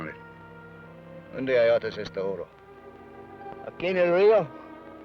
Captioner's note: Ben speaks foreign language